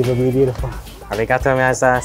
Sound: speaks Japanese

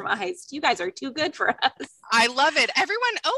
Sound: laughter

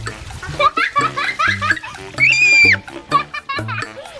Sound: laughing

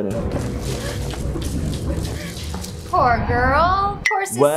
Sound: woman gasping for breath

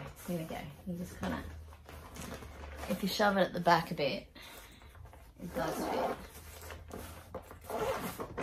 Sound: zipper sounds

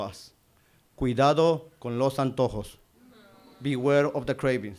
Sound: Spanish

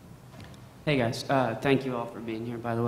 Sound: voiceover

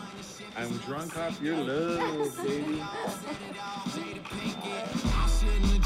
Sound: Reena laughing

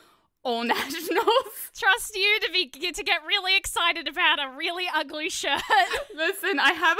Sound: laughter

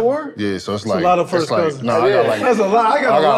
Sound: none

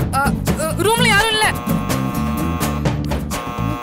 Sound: door bell rings

